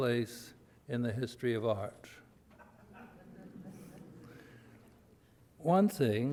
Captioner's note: audience laughter